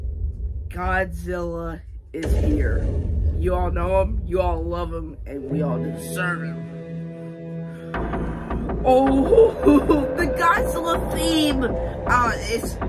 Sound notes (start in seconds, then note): 2.1 Godzilla stomping